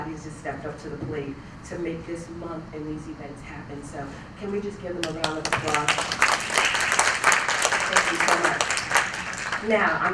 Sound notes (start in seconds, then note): 7.7 applause